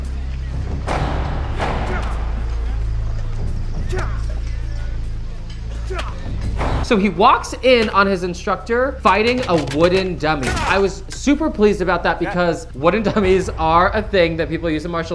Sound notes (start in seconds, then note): 0.1 intense music; 3.3 fighting groans